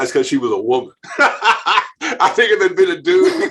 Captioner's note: laughing